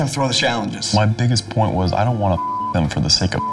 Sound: beep

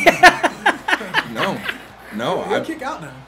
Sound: laugh

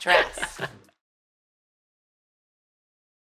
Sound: giggling

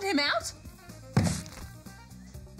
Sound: splat!

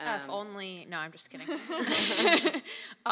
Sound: laugh

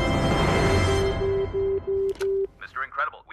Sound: phone beeping

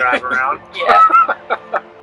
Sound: laughing; somber music

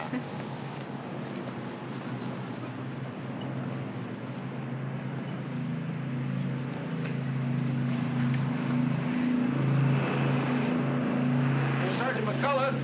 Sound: bidding farewell in German; aircraft rumbling in distance

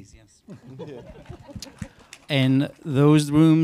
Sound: audience members applaud

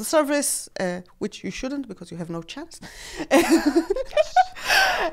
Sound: laughs

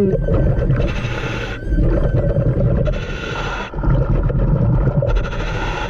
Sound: ominous music continues; mouthpiece hissing

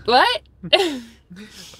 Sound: laughs

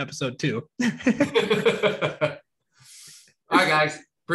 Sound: both chuckling

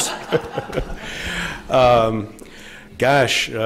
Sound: laughter

